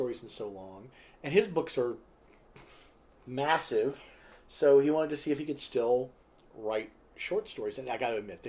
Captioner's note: pfft